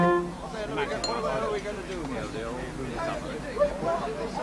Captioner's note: chatter and laughter inside house